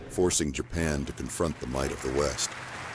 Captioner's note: applause